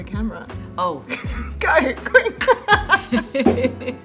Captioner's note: laughing